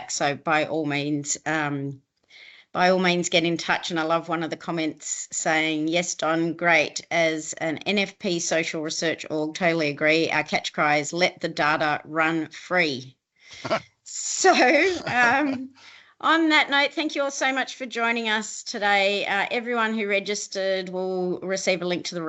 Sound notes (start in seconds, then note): 14.6 chuckling; 14.8 chuckles